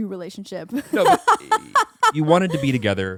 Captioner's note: laughing